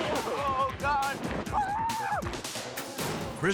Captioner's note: screaming